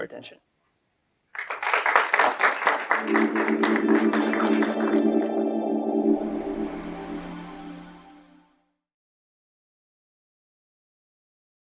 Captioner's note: applause